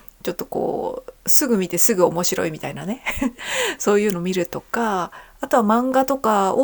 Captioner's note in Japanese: 笑い